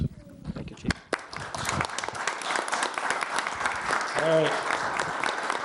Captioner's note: audience applauds